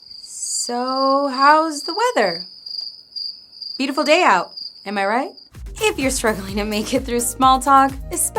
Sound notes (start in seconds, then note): 2.9 crickets chirping